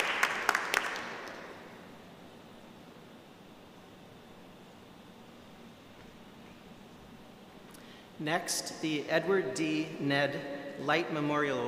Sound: applause

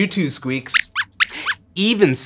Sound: squeaks squeaks

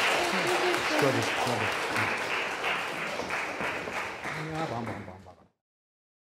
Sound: applause

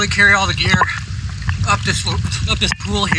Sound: spits

